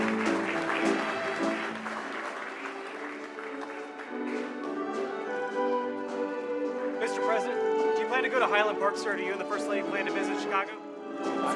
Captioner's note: applause